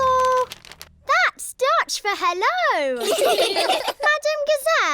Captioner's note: laughter